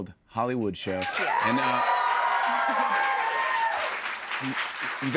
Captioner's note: cheers and applause